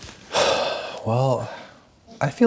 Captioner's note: sighs